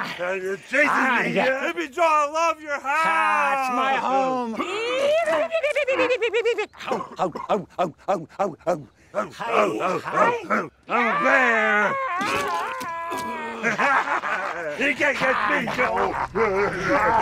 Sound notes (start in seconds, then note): 6.8 chanting